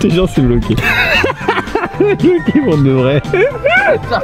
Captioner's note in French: rire